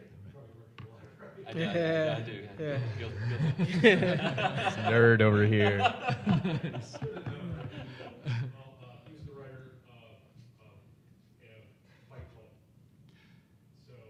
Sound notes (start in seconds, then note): 1.2 panelists laughing